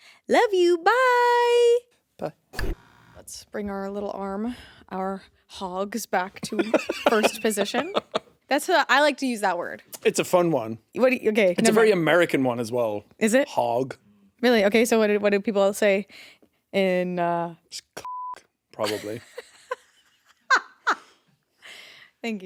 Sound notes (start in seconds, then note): 18.2 beeps; 18.8 laughing